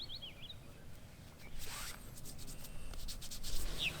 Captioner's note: zipping; birds chirping